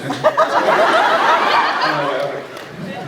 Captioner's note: laughs